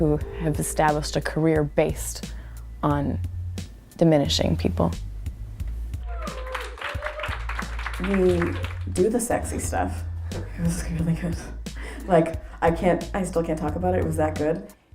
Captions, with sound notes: who have established a career based on diminishing people. [APPLAUSE] We do the sexy stuff. it was really good. like, I still can't talk about it it was that good.